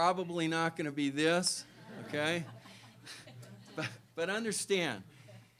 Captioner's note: laughter